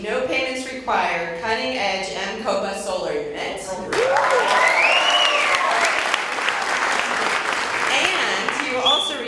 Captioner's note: cheers and Applause